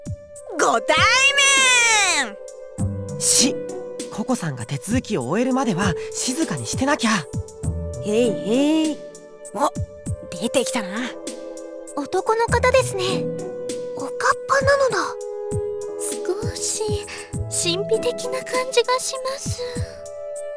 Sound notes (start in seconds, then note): 4.2 whisper; 9.5 whisper; 14.2 whisper